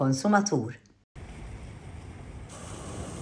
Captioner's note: waves crashing